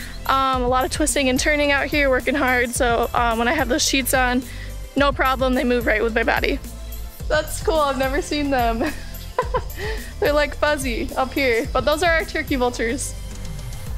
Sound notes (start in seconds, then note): 8.7 laughs